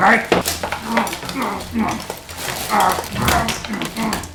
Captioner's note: more, louder grunts